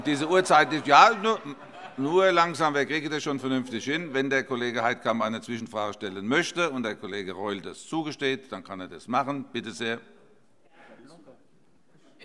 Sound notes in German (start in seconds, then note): 0.0 Heiterkeit